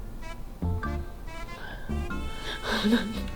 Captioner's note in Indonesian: tertawa